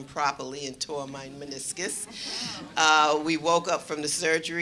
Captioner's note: audience gasps